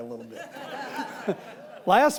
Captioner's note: audience laughing